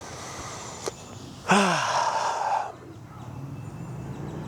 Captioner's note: sighs